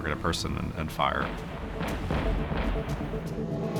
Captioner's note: explosions